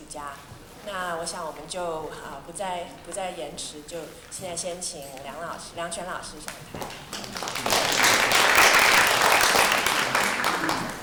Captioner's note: audience clapping